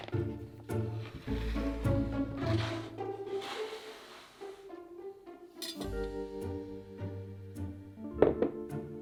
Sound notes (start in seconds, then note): 0.9 cutting board sliding